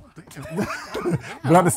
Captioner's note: laughing